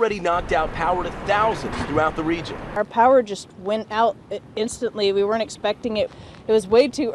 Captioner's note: NAT - flooding/wind; NAT - rushing water